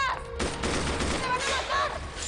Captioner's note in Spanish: Disparos